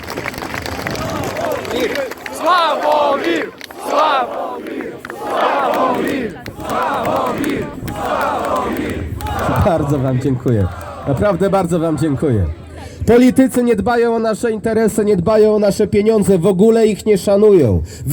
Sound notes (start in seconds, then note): 1.0 crowd chanting